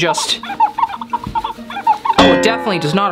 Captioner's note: napkin squeaking